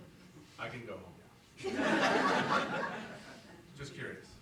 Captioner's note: audience laughing